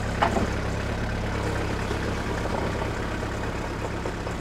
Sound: engine runs

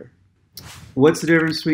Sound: keyboard clicking

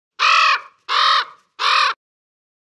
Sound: crow caws

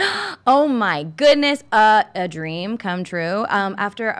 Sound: gasps

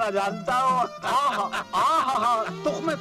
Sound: laughs

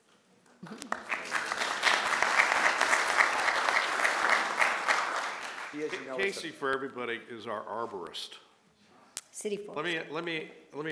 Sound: applause

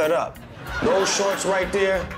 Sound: laughter

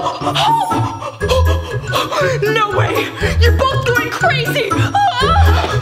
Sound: gasps; screams and gasps

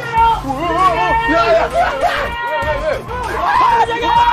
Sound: sounds like buffering

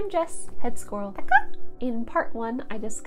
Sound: squirrel squeak

